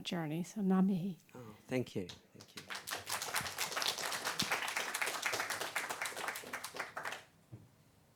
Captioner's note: applause